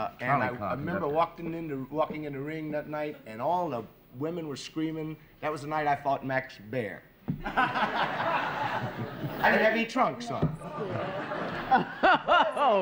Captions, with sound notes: And I remember walking in the ring that night and all the women were screaming. That was the night I fought Max Baer. (laughter) I didn't have any trunks on.